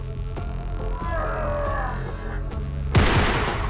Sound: man grunts; gun shoots

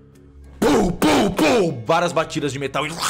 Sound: tum tum tum

